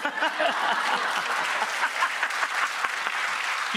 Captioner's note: audience cheers